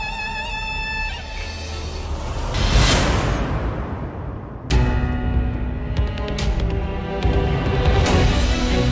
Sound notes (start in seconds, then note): 1.1 traffic noises; 3.0 upbeat music